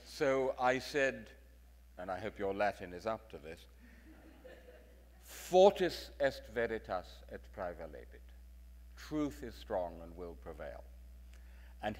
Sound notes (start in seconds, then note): 4.4 speaking in foreign language